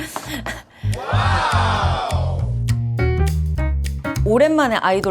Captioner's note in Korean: 목을 가다듬음